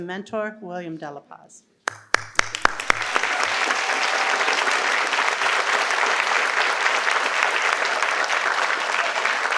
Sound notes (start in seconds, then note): 1.8 participants applaud